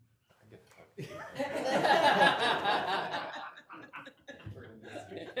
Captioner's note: laughing and chatter